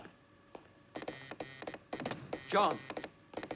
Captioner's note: Zumbido, clique